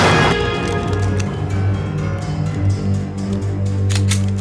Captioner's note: gun clicking